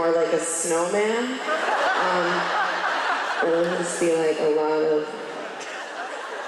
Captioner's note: laughs from crowd